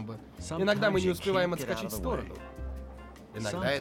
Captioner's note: none